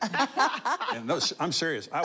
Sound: laughing

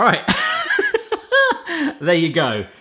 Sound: guffaw

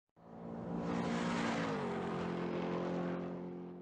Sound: car engine racing

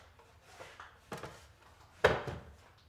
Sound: none

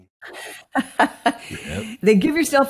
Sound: laughs

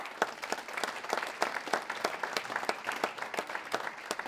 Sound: audience clapping

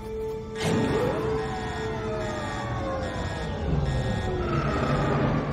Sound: alarm blaring

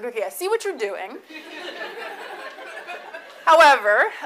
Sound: audience laughs

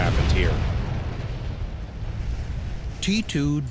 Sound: sound of explosion

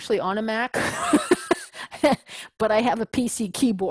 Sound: laugh

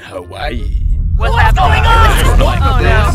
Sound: rumbling

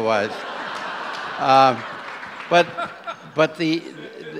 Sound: audience laughs

